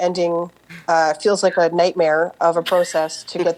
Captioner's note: laughter